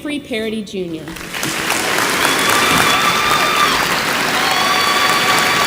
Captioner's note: audience applauds and cheers